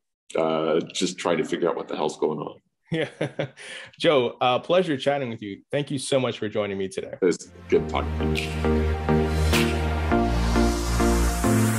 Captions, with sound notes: just try to figure out what the hell is going on. - Yeah. (laughs) Joe, pleasure chatting with you. Thank you so much for joining me today. - It was good talking, thank you. (upbeat music)